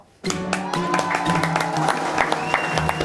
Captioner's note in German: Jubel, Applaus